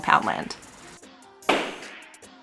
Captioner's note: gavel bang!